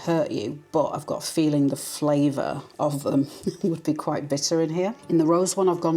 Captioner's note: laugh